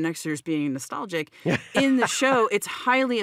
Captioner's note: laughs